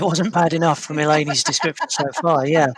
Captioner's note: laughs